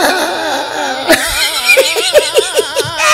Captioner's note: Giggling